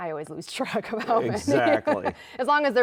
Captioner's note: laughing